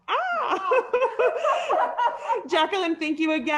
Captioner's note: panel laughing